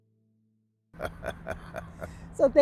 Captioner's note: laughing